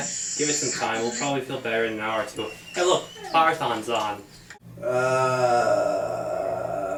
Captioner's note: moan